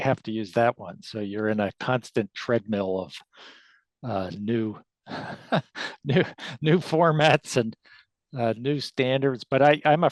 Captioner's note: laughs